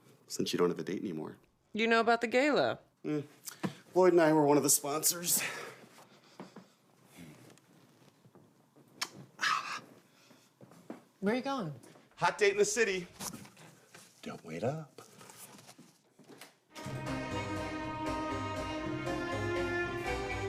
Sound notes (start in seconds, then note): 8.9 lips smack; 16.7 orchestral music begins